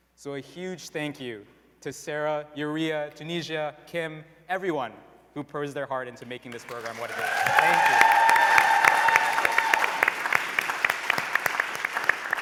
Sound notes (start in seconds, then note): 8.2 applause, cheering